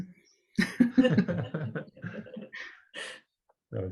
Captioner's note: laughter